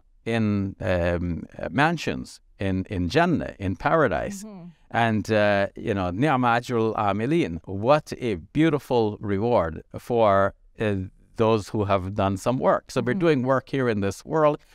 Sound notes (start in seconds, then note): 5.2 speaking Arabic